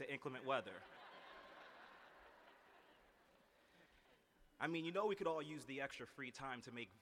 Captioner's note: laughter